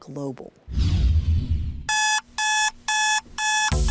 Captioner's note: alarm buzzing